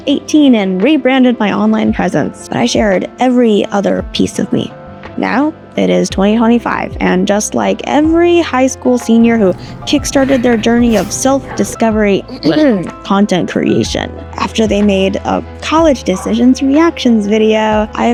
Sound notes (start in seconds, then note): 12.8 cough